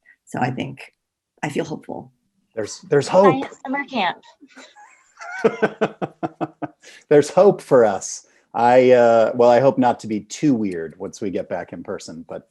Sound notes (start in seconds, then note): 5.2 laughing